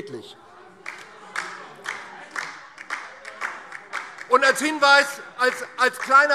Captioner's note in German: Beifall DIE LINKE - Zuruf SPD